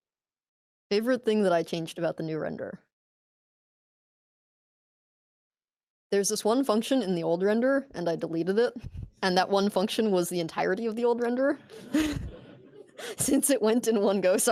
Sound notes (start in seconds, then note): 11.6 laughter